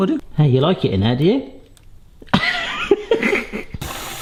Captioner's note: chuckles